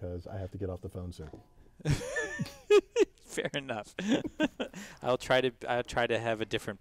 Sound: laugh

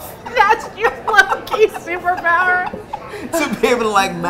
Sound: laughing

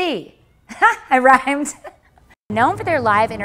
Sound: laughs

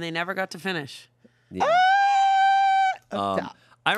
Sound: squeals

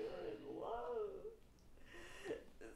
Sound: Shigure crying loudly

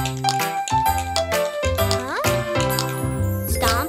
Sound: tapping

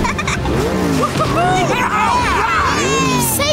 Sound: giggling; cheering

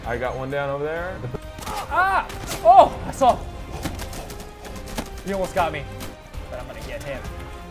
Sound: laugh

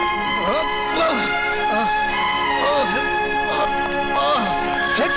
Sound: groans

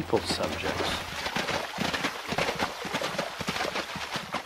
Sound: horses galloping

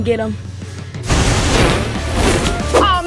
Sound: flame burst

